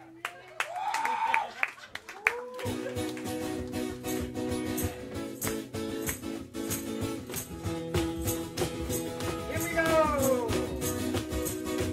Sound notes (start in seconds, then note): 0.2 clapping; 3.2 guitar strumming and bells jingling